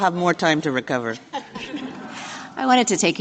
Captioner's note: laughter